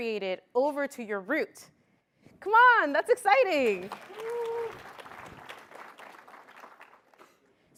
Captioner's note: applause